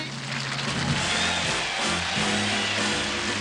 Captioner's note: cheering